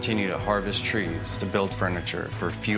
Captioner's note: machinery humming